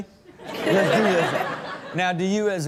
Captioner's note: Chanel and audience laugh